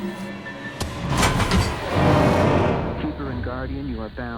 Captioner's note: thudding